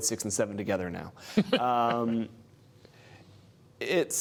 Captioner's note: laughter